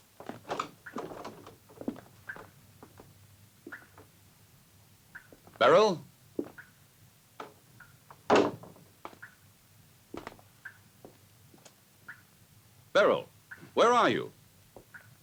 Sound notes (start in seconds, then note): 0.2 door opens; 0.5 liquid dripping; 8.2 door closes